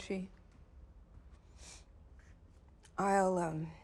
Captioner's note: sniff